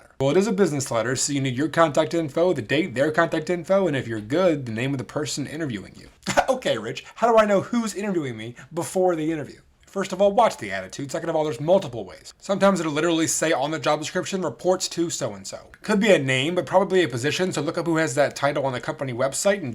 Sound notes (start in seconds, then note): 6.1 scoffs